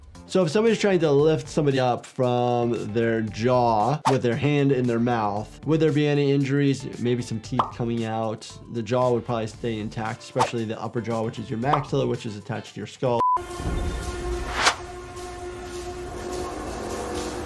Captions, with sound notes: So if somebody's trying to lift somebody up from their jaw with their hand (graphics swishing) in their mouth, would there be any injuries? Maybe some teeth coming out. (graphics popping) The jaw would probably stay intact, especially the upper jaw, (graphics swishing) which is your maxilla, (graphics popping) which is attached to your skull. (eerie music)